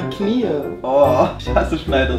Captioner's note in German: Stöhnen